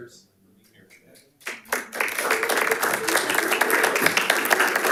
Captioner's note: audience applauding